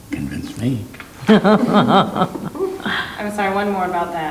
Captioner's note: laughing